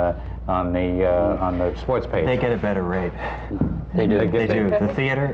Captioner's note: sighs